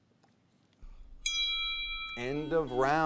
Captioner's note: bell ringing; buzzer beeping